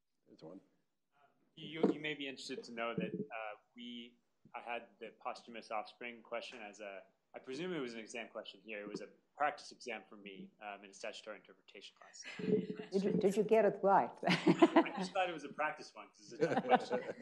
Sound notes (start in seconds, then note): 14.2 laughs